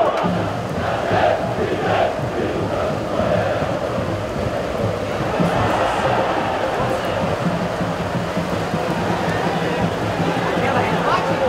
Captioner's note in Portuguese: sons da torcida